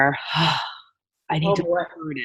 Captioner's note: sighing